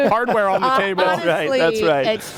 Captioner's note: laughter